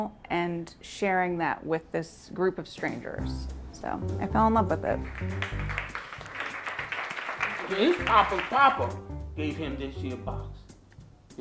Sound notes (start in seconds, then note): 4.8 audience clapping; 5.3 upbeat music